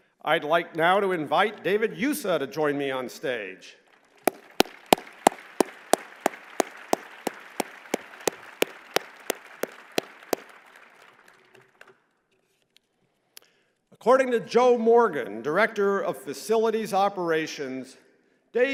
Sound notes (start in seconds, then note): 3.9 applause